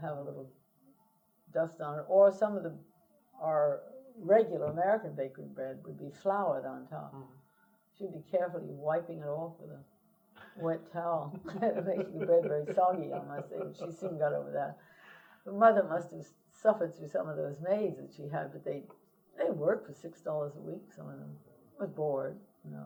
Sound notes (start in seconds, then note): 11.2 laughter